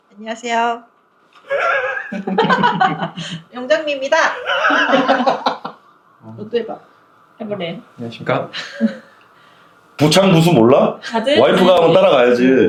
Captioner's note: laughs